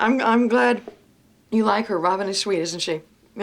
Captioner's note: none